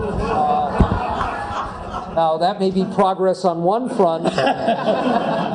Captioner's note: laugh; laugh